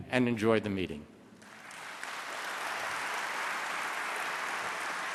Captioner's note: applause